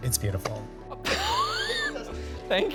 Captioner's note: chuckling